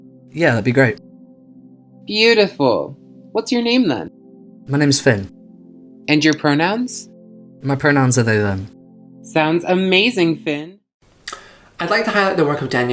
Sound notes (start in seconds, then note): 0.3 voiceover